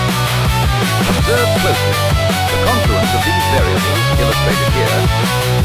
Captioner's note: male Mid-Atlantic voice